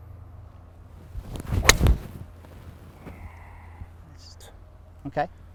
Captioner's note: golf club swinging